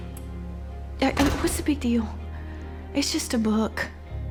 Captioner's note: door shuts